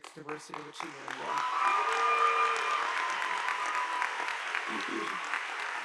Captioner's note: audience applauding